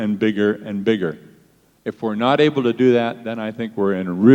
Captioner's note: none